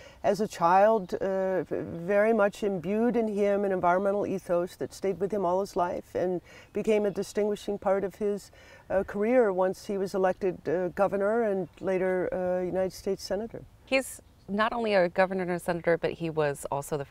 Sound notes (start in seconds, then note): none